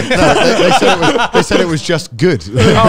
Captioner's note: laughing